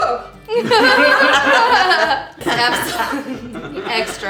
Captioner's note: laughing